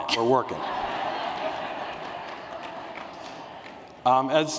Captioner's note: laughter